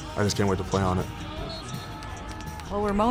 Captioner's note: crowd yelling